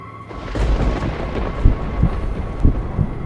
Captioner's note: thunder clap, heartbeat